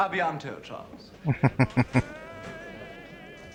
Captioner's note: chuckling